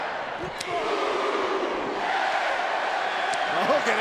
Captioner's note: audience cheering